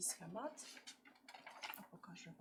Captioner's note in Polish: szelest kartki